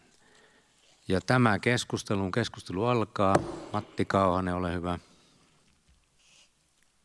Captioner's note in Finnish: Nuijan kopautus